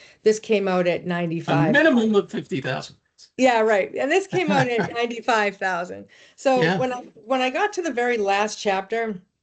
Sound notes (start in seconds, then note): 4.3 laughing